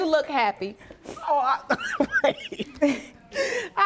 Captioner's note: laughing